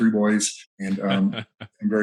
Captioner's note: chuckles